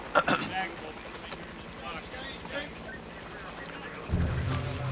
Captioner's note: clears throat; suspenseful music